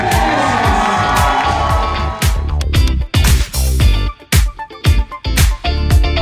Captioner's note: applause